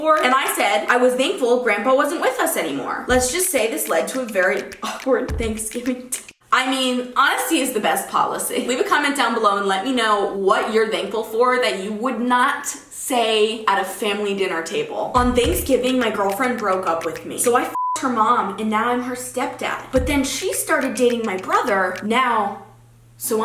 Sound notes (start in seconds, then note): 17.7 beep